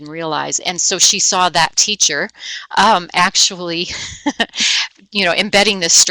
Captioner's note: laughing